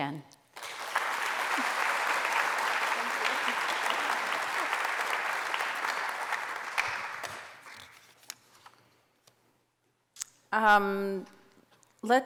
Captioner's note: applause